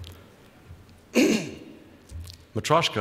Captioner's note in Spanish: Presentador se aclara la garganta